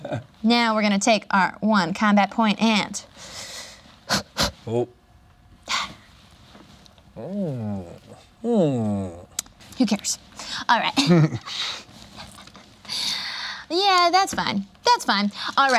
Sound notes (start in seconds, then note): 4.1 blows; 11.0 laughs